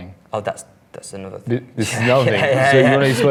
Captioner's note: laughs